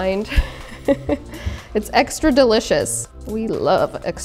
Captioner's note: laughs